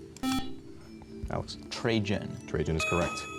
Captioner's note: buzzer